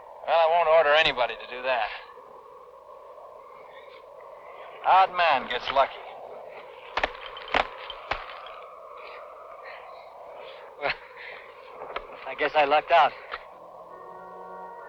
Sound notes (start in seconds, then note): 6.9 thudding; 10.6 scoffing